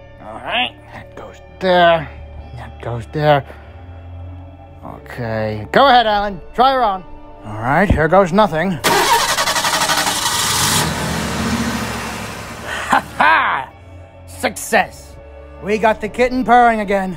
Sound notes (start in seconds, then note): 8.8 engine starts